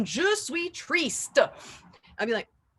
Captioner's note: with a thicker accent